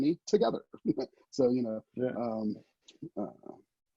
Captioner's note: chuckles